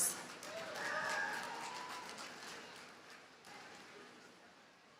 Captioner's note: audience cheers and applauds